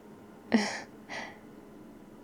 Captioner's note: laughs